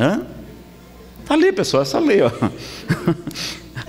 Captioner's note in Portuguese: risadas